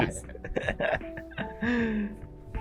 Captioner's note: laughing